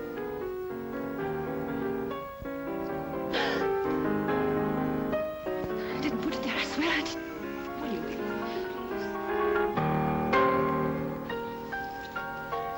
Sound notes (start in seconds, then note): 0.0 piano plays; 3.3 gasps loudly; 9.4 piano plays